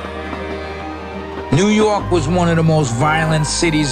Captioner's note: police siren blares